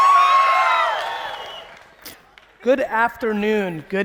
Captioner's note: audience cheering